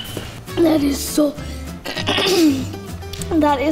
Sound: coughing

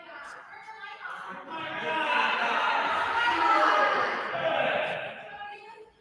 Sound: attendees jeering

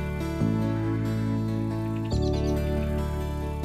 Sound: Fifi Humming

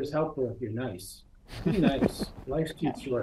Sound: laughter

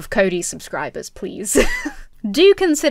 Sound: chuckles

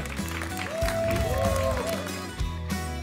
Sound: applause and cheering cont

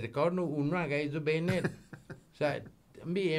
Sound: laughing

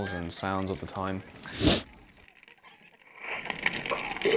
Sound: sniffing; sounds of the museum

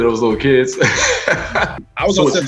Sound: laughs

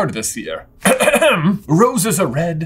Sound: hem hem hem

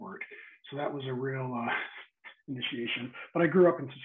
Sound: chuckles

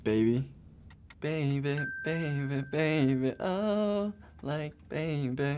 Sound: timer ticking; bell rings

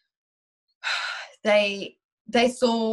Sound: sighs

